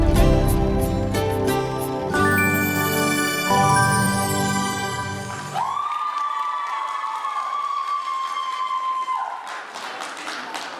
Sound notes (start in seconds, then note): 5.8 applause